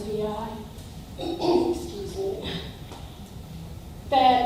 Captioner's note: clears throat